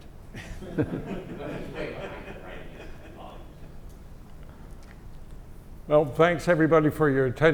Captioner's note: laugh